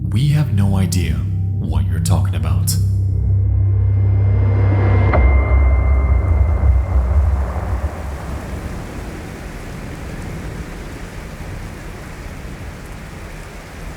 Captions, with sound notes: We have no idea what you're talking about." (foreboding music) (air whooshing) (rain pattering)